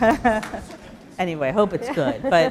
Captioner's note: laughter; laugh